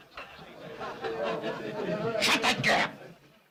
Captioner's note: men laughing in next room; men chattering